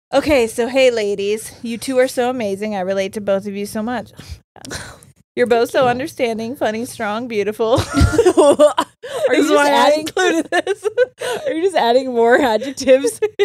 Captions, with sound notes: Okay, so hey ladies, you two are so amazing. I relate to both of you so much. - Thank you. - You're both so understanding, funny, strong, beautiful. (both laughing) This is why I included this. - Are you just adding- Are you just adding more adjectives?